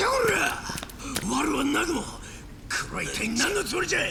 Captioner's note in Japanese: うめき声